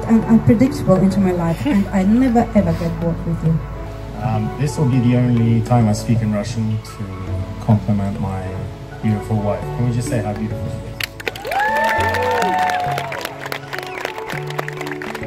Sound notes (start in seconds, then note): 11.0 guests clapping